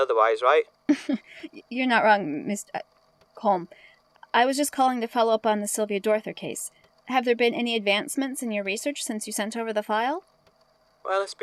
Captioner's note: nervous laughter